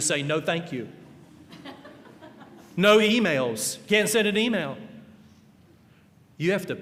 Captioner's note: laughter